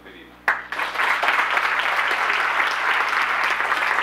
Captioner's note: audience Applause